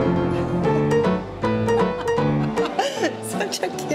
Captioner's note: laughs